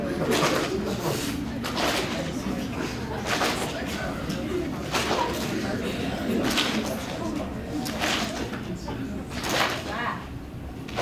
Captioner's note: clapping continues